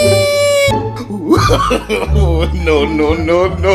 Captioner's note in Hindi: हँसी